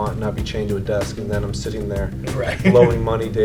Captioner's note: laughs